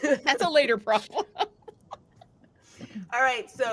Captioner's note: laughing; group laughing